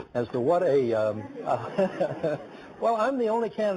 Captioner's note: laughing